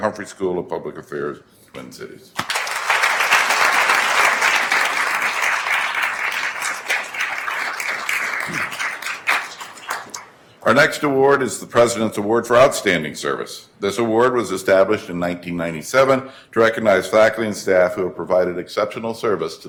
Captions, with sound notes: Humphrey School of Public Affairs, Twin Cities. (attendees applauding) Our next award is the President's Award for Outstanding Service. This award was established in 1997 to recognize faculty and staff who have provided exceptional service